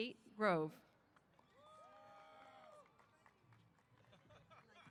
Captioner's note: applause & Cheers